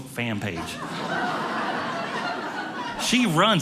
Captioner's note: audience laughing